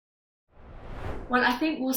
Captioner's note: screen swooshing